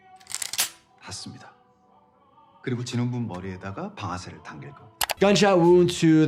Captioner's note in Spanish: reclutador hablando en coreano